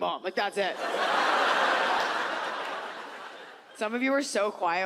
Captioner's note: audience laughs